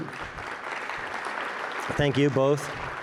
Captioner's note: audience applauds